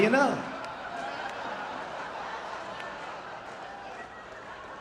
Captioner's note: audience laughing